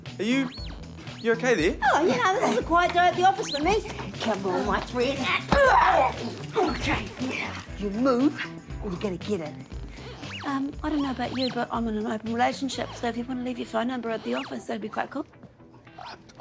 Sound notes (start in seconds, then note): 5.5 grunts; 11.0 wand whirrs